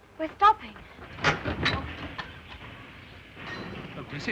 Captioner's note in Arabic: صوت القطار